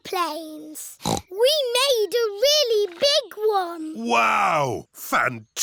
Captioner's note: snorts